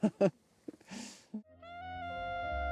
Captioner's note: laughs